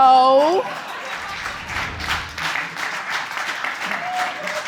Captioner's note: audience laughing and applauding